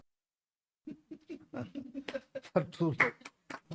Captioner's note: laughs